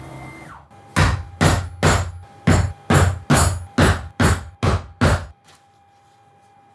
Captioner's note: servo; hammer banging